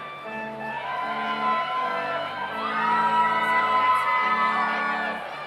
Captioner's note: audience cheers